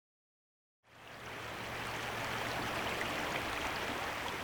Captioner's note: water rushing